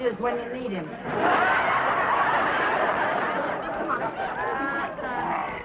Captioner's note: audience laughing